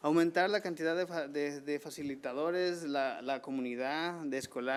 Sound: man speaking foreign language

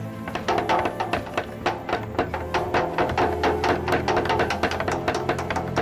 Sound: wood banging on metal pans

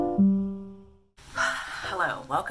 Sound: 𝘴𝘪𝘨𝘩

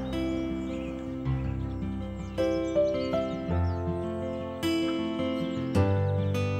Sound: birds calling; relaxing music continues

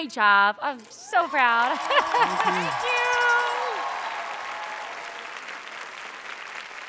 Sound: audience cheering

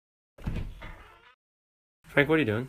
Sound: door opens

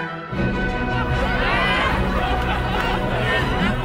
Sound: more Laughter

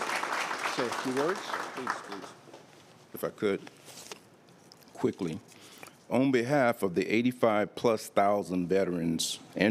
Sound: applause

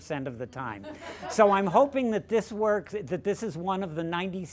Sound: laughter

